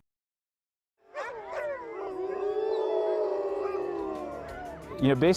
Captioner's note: dogs howling